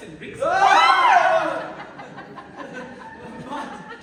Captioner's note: DUKE and DUCHESS shriek; laughter